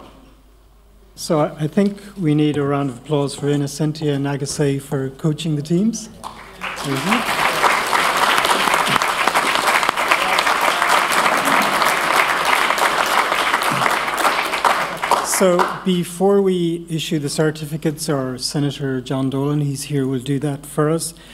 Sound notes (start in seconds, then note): 6.2 applause